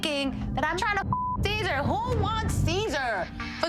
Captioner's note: beeps